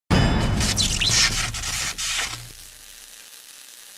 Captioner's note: bang and sizzle